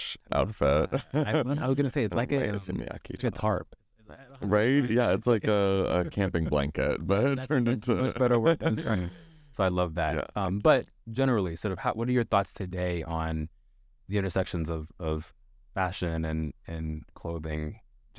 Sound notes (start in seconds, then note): 7.5 laughs